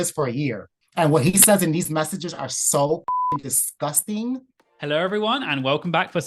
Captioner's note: beep